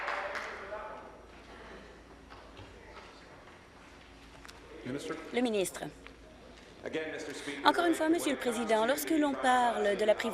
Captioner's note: applause